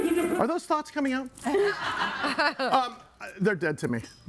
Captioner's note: audience laughing